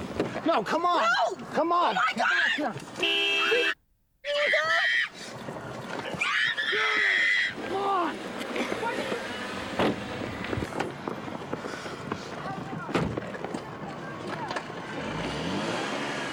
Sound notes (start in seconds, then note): 2.9 horn honking; 4.4 screaming